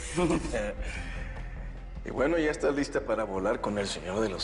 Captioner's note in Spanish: Risas